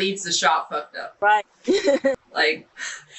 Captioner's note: laughing